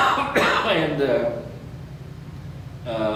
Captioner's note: coughs